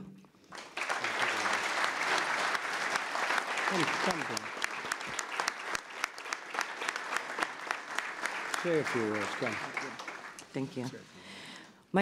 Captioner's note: applause